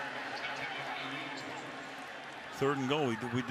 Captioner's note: pa announcement